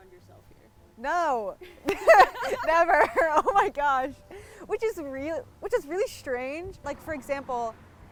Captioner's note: laughing